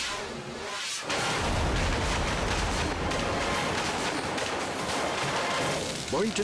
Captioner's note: dramatic music; fireworks exploding